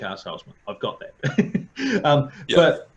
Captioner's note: laughing